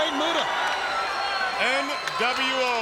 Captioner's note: crowd cheering